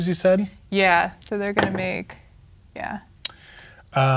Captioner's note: dice rolling